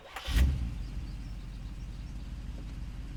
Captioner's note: engine starts